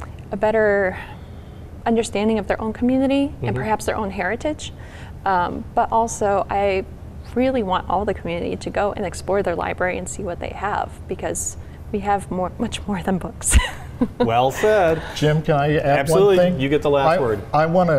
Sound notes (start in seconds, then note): 13.6 laughs